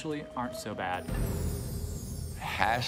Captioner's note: chimes